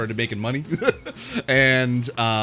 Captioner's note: laughs